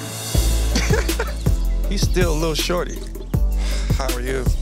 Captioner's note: laughing